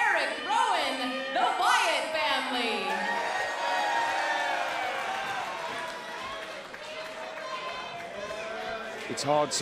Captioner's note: crowd cheering